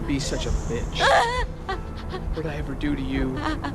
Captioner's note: sobbing